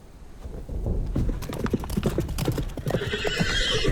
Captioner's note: horse whinnies; thunder rumbling